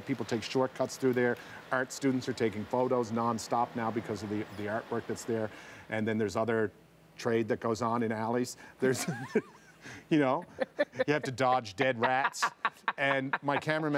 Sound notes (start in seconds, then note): 8.8 laughter